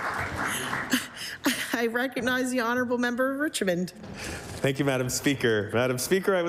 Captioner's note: applause